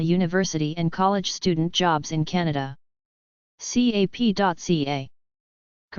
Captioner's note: in french only